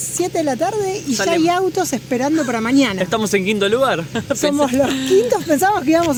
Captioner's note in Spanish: risas